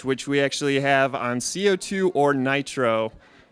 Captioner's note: none